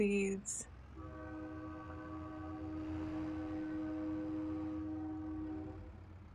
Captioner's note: train